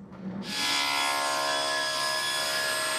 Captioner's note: high-pitched machine whirring